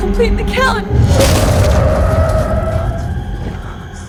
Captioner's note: loud crashing